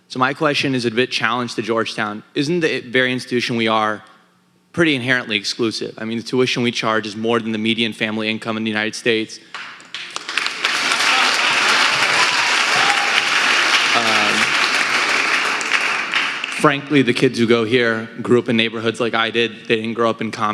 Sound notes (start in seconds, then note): 9.5 audience applauding